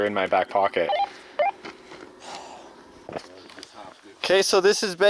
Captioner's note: sighs